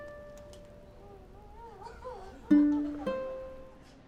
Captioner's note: family cries